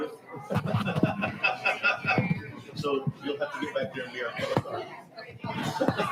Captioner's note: board members laughing